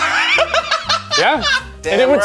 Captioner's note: laughing